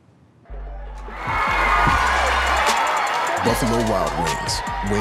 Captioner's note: crowd cheering